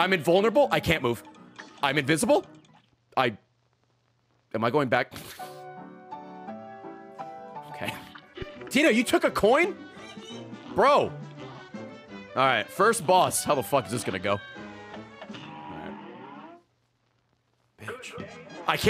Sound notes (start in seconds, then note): 6.7 laughs; 9.7 giggles